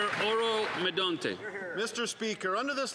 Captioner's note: some Applause